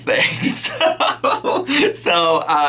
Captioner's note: laughing